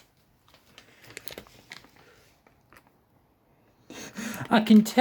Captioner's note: hard drive bag rustling